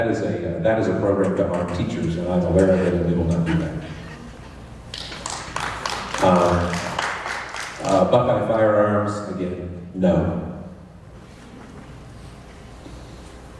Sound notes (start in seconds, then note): 4.9 applause